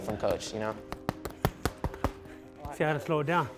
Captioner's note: mitts boxing